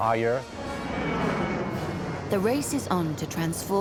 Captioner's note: jet engine roars